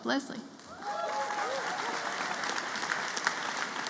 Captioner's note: applause